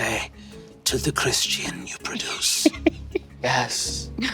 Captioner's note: Lou giggling